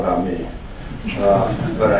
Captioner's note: laughter